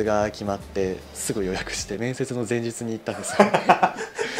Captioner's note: laughs